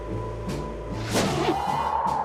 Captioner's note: wind whooshing